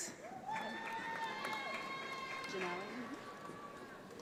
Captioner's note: audience applauds